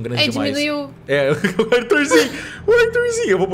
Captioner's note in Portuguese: Risos